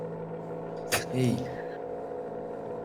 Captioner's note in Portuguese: Chorando